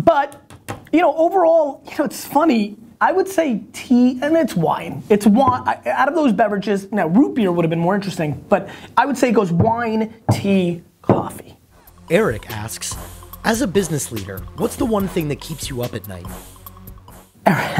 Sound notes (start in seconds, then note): 12.0 voiceover